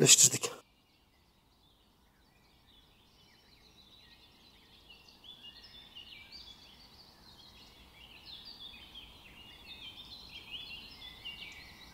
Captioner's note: bird voices